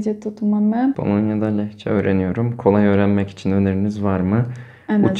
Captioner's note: Turkish